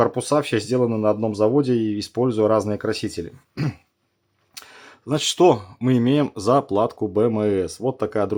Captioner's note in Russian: откашливается